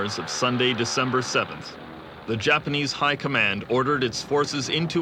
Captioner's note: plane engine roaring